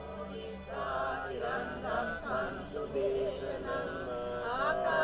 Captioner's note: chanting in foreign language